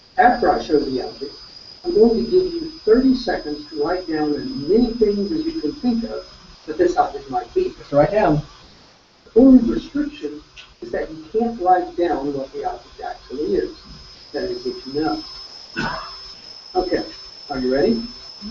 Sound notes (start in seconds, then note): 15.7 cough